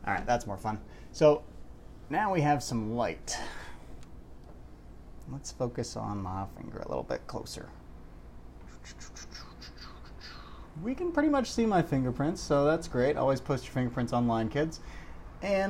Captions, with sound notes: All right, that's more fun. So, now we have some light. Let's focus on my finger a little bit closer. [Vague, progressive beatboxing] We can pretty much see my fingerprints. So, that's great. Always post your fingerprints online, kids.